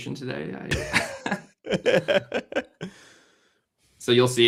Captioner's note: laughter